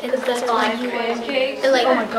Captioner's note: chatter